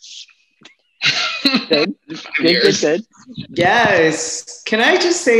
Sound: laughter, affirmation

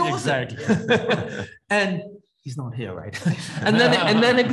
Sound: laughs; laughs

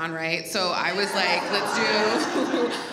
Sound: audience laughs

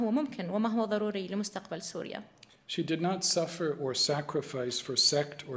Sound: in arabic

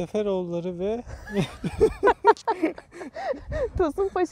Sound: laughings

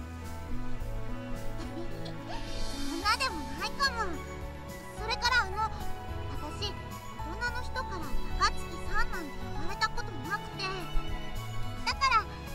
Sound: giggle

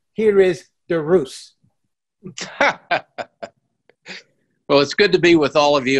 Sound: laughs

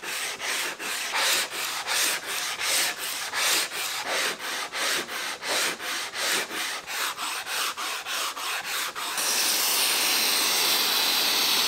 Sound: sanding noises, vacuuming and miter saw being used

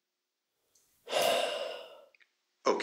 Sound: sigh

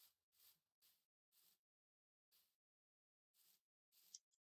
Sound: none

